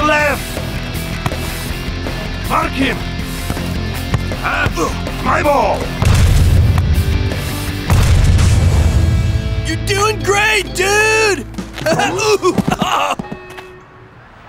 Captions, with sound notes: To your left. Mark him. My ball. - You're doing great, dude! (groans)